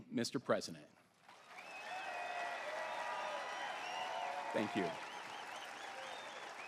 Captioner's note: applause